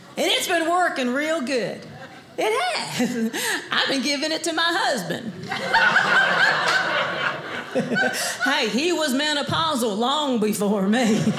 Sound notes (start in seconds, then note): 5.4 audience laughing